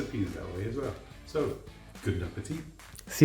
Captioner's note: foreign language